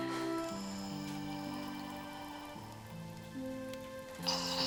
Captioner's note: Bill snoring